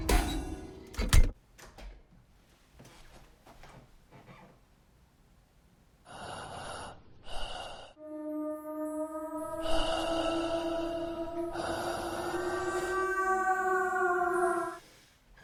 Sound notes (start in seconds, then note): 6.3 haunting music; 6.3 man breathing heavily